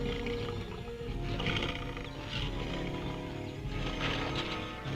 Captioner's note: lions grunting